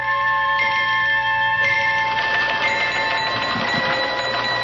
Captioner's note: bell ringing